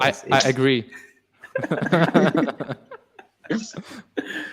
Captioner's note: panel laughs